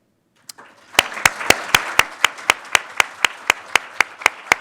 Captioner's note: audience applauding